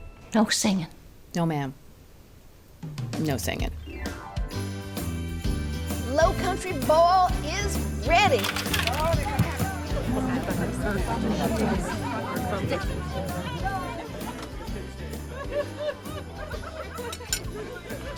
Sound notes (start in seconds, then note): 8.5 vegetables thud on table; 10.0 people chattering